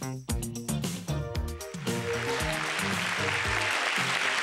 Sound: applause

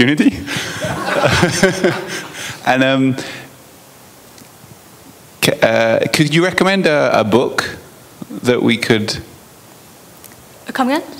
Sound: laughter

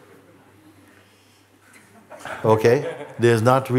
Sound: laughter

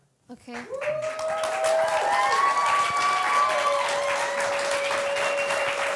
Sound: audience applauding; audience cheering

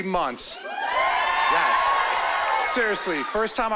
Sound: cheering

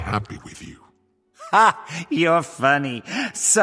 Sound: laugh

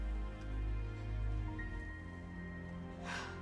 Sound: sniffling

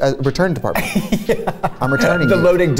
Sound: laughs

